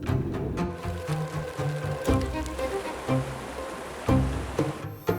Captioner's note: sound of rain